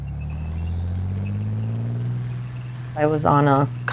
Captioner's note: truck engine revving